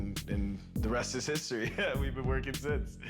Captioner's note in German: lacht